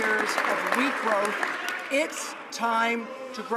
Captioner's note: some Applause